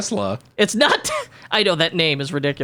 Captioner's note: giggles